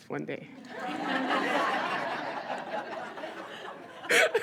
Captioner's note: audience laughs